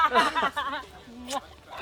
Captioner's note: laughter